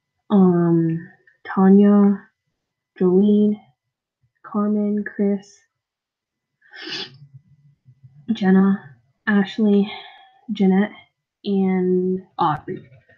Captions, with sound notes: ummm... tania... joline... carmen, chris... *sniff* jenna... ashleigh... jeanette... and aubrey....